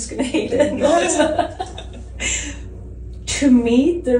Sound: laughing

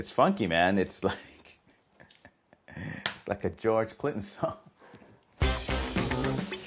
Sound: laughing; upbeat music

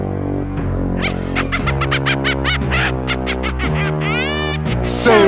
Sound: Grunty's Laugh

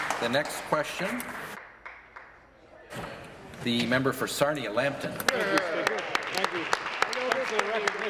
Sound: applause

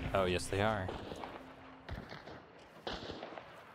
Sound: gunshots

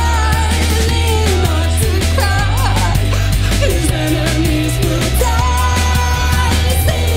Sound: Liam sobs

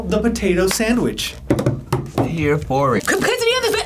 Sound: drums on table

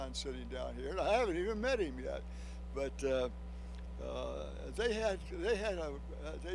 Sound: none

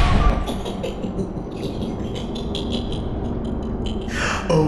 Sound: Patches laughing

